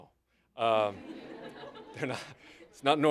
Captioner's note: laughter